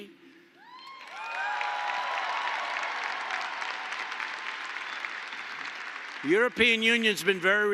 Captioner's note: applause